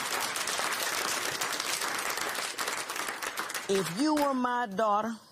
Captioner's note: applause